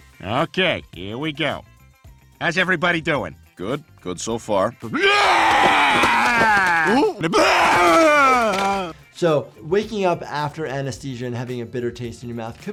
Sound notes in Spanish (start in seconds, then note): 5.6 El chico eructa